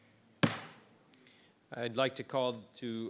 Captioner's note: gavel banging